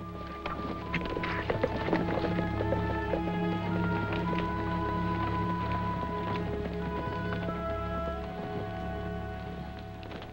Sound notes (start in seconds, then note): 0.0 galloping; 9.1 foot Steps